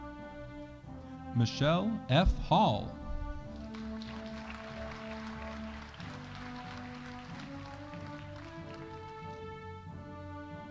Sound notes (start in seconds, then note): 3.4 audience applauding